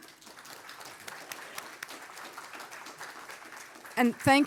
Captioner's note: audience applauding